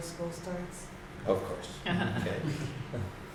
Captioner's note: laughs